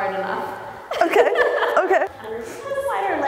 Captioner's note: laughing